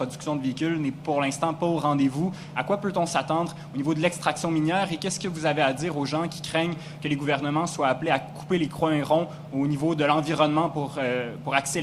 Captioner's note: speaks French